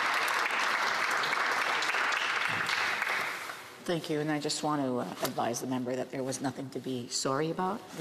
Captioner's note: applause